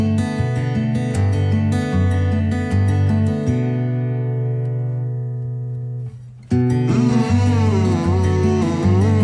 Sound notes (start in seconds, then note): 6.7 melodic humming